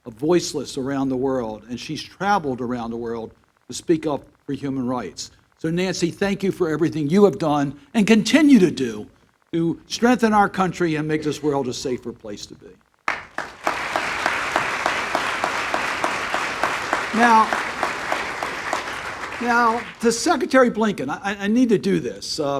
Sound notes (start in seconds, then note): 13.0 applause